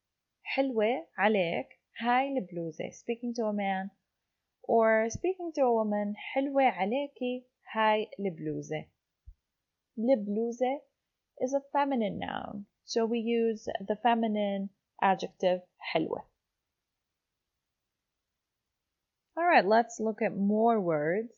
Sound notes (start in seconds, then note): 0.2 in Arabic; 6.7 in Arabic